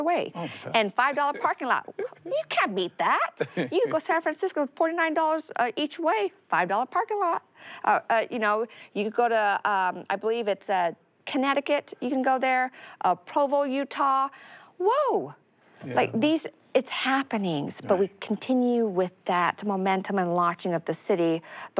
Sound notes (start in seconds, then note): 3.4 chuckles